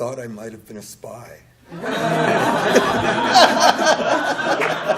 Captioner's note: laughter